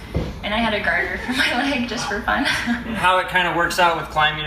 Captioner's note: laughing